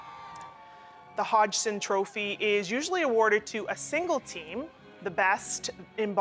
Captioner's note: cheers and Applause